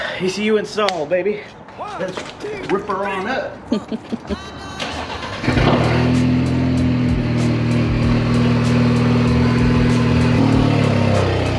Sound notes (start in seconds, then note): 3.6 laughs; 4.8 engine cranking; 4.8 engine revving; 5.3 upbeat music